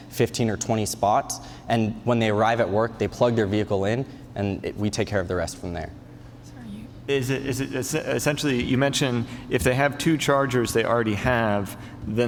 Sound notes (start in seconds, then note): none